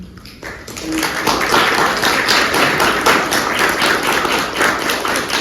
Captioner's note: applause